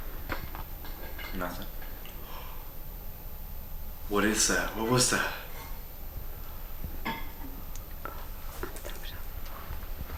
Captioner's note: gasp